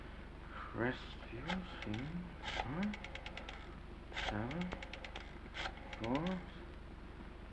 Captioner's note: phone dial clicks